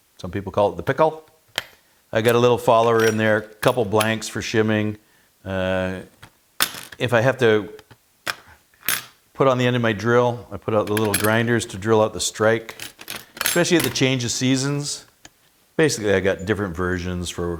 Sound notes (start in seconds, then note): 6.6 metal clattering